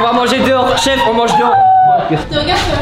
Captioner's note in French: suffoque de rire